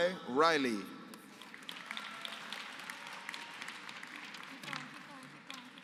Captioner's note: applause